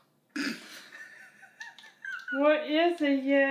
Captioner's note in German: Mama kichert